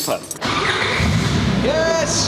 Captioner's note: engine starts